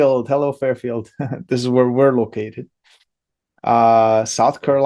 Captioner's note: laughs